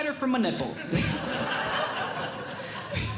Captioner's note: audience Laughing